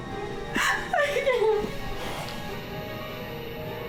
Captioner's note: crying